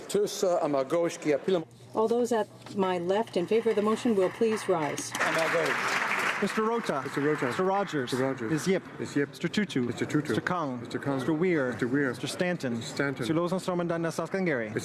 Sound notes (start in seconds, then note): 9.2 applause